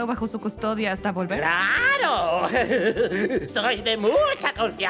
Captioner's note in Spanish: risa maníaca